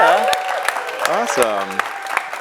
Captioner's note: audience claps and cheers